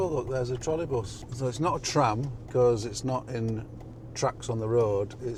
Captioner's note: none